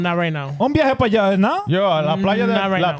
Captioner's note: speaking In Foreign Language